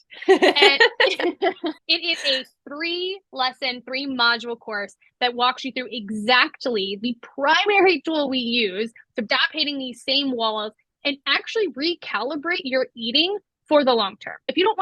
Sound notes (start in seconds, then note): 0.1 laugh